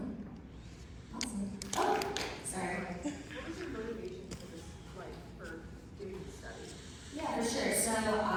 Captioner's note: starts clapping